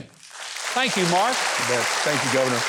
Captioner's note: audience applauding